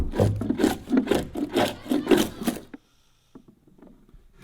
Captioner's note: wood reverberating; tool scraping